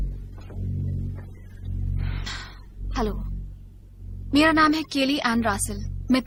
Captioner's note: exhales